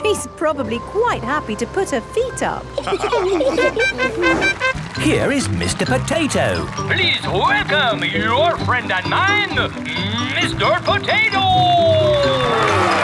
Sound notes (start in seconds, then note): 2.8 all laughing; 3.5 horn tooting